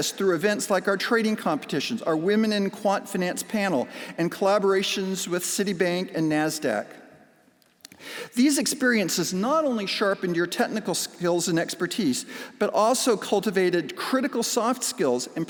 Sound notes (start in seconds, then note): none